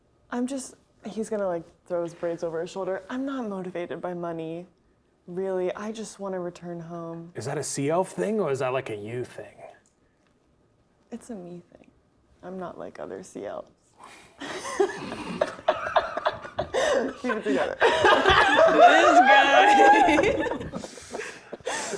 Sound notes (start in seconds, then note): 14.4 players laughing